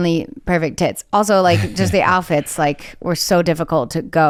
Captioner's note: chuckles